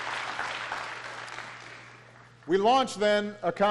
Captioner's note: applause